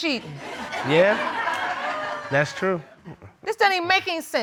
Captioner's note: audience laughing